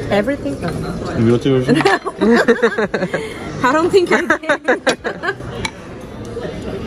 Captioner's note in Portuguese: risos